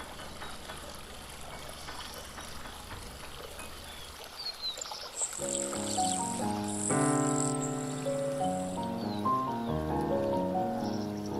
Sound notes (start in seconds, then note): 0.1 birds, animals chirping; 3.6 water rippling